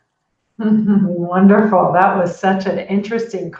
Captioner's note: chuckles